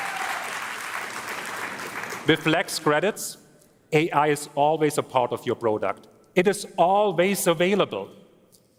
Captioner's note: applause